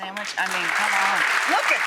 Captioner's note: audience applauding